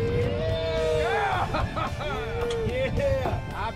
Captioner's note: cheering; background conversation